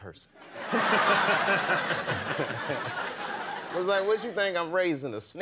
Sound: laughing

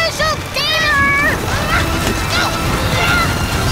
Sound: both grunting

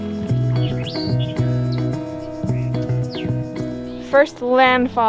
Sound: birds singing

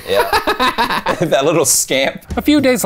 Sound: laughing

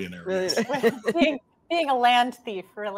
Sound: laughs

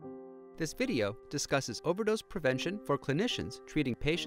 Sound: male voice over speaking

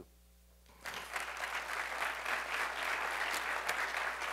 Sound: crowd applauding

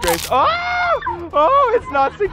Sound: crunching; screaming

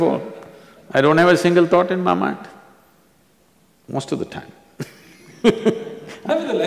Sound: laughs

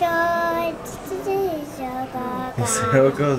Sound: vocalizing

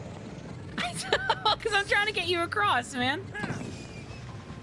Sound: laughter

